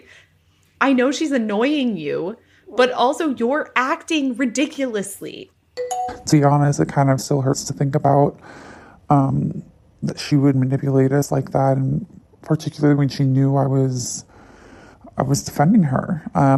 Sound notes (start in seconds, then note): 5.8 bingbong